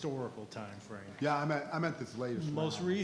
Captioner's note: faintly speaking